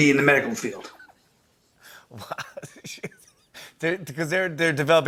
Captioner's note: laughing